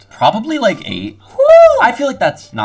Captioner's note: shouting